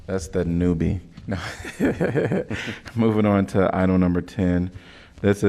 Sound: laughter

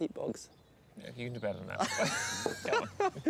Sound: laughing

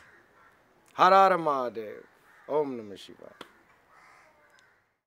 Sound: foreign language

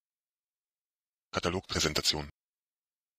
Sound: fast Pronunciation

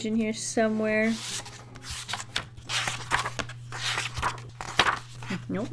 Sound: pages flipping

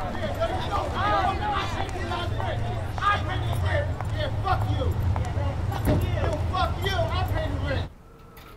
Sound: arguing

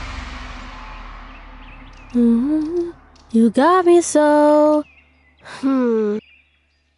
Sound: hums

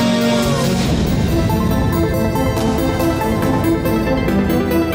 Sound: explosion booms

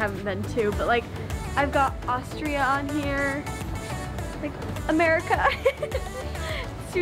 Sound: laughs

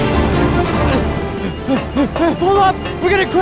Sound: panting

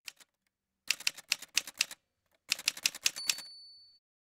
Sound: typewriter sounds

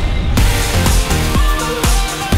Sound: bang

